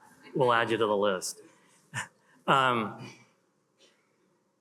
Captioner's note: chuckles